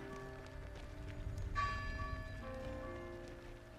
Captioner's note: melancholic music continues; bell tolling